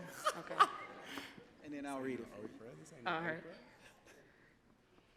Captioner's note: laughs